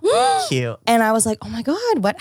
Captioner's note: gasps